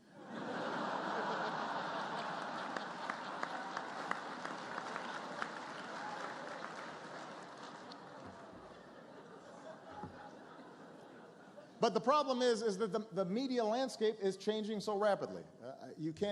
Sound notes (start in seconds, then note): 0.0 laughter; 3.6 laughter, applause